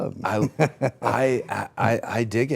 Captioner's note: Rey laughing